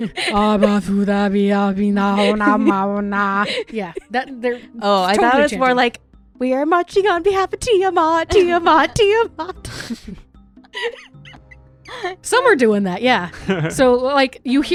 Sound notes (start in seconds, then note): 0.1 chanting; 10.7 laughter